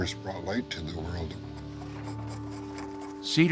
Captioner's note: scraping wood